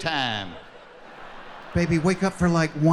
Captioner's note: laughing